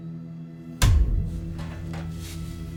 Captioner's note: powerful switch on